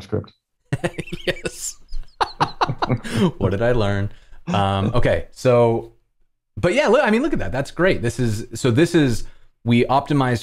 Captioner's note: laughter